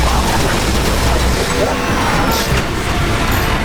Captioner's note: infrasound